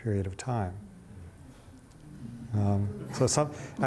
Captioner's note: audience chattering